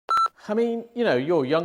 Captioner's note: beep